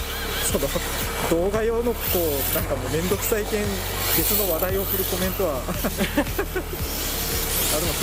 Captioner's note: laughs